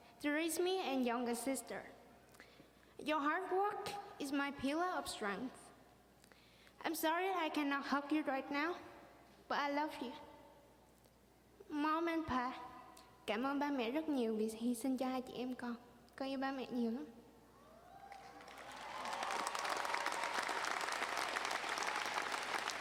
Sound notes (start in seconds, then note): 13.6 speaking in foreign language; 17.8 audience cheering and applauding